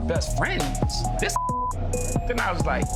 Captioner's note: beep